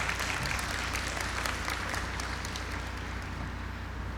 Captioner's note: applause